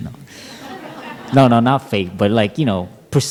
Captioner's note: laughter